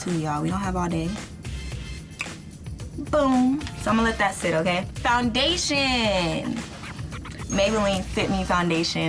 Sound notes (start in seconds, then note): 1.9 snaps